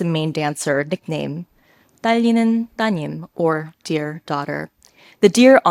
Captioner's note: participant speaks a foreign language